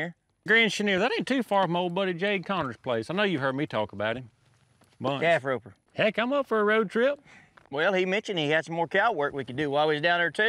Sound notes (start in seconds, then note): none